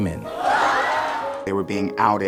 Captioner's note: screaming